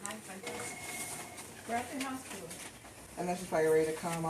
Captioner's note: phone ringing